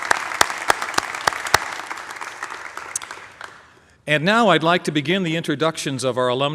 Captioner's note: applause